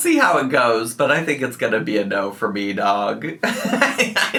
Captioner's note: laughs